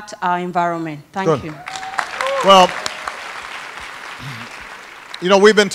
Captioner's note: applause